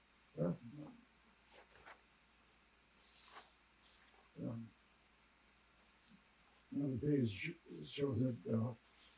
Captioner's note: pauses 6 seconds